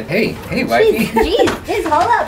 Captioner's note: chuckles